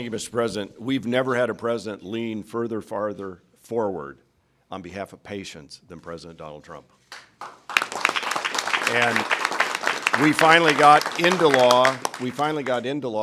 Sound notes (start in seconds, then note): 8.8 applause